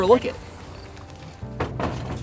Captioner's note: canoe clattering